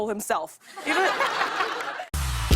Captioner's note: laughter